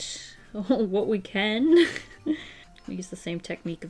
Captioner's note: chuckles